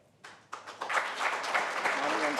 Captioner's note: applause